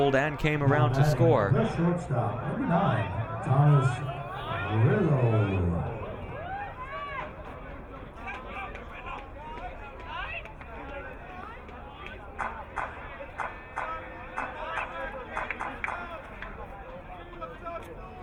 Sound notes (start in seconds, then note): 6.5 crowd cheering